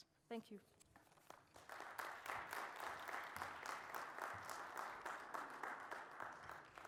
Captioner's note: applause